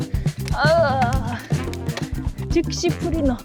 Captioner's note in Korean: 앓는 소리